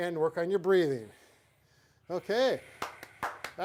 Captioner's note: breaths; hands clap